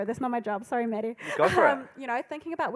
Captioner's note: laughing